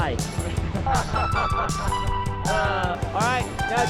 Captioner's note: group laughing